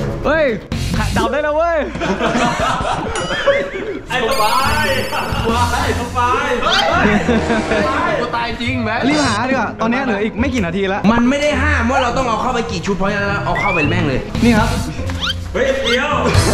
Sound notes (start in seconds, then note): 1.9 laughs; 6.7 screams